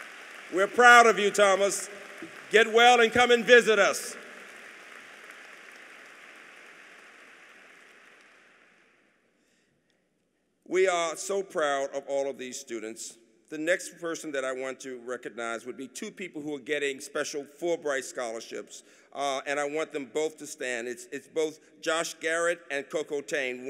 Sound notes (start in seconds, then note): 0.0 applause; 4.2 applause